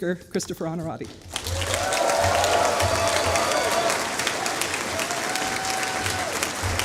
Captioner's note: applause